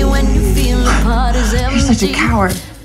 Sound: laughs

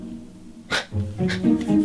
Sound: dad's laughing secretly

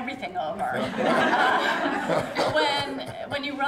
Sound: laughter

